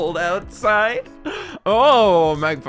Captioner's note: breath